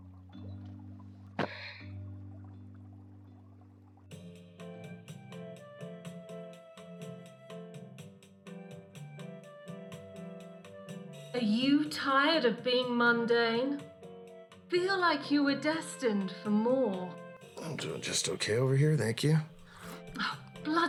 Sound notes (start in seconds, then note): 1.4 Stevie sighing; 4.2 upbeat music